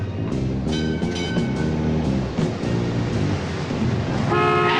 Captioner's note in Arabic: رنين الجرس